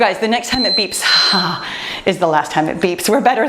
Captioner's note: timer beeps